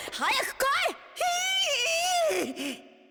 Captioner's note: panicked cry